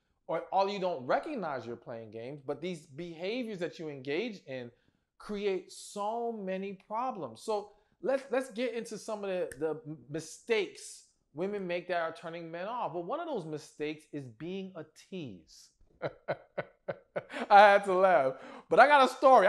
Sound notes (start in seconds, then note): 16.0 laughs